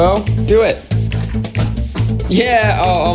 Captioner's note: plastic bottle flap sound